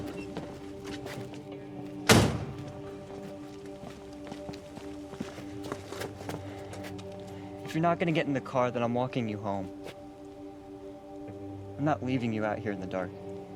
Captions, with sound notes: [shuts door] If you're not get in the car then I'm walking you home. I'm not leaving you out here in the dark.